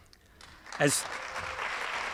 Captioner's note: applause